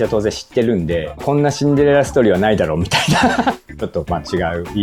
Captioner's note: laughs